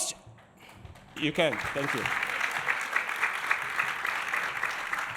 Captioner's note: audience clapping